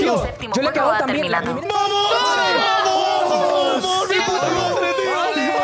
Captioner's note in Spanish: gritan todos